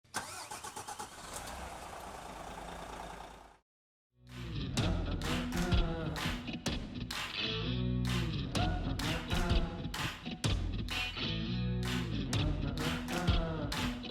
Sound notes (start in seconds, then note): 0.2 car engine roaring; 4.7 upbeat music